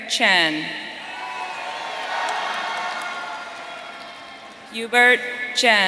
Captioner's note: audience cheering